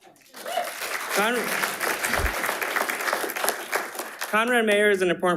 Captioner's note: attendees applauding